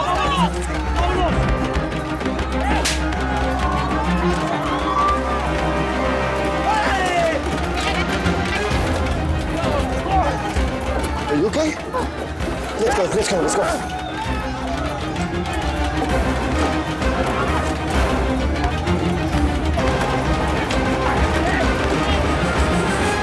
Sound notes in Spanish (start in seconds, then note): 2.6 Gritos y exclamaciones; 7.2 Golpes